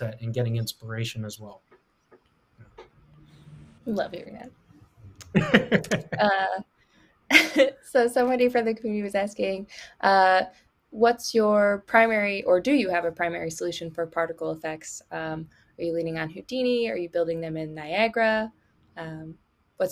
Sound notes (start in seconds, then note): 5.2 laughs